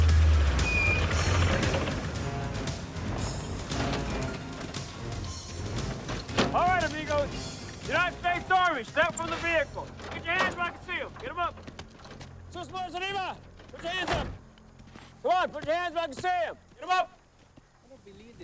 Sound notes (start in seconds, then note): 1.0 brakes squeaking; 12.9 speaks Spanish